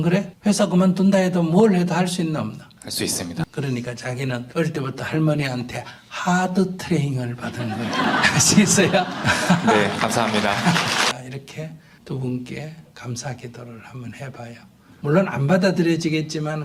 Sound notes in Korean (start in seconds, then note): 7.4 청중과 질문자 웃음; 7.5 스님과 청중 웃음